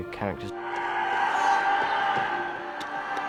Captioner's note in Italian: gridano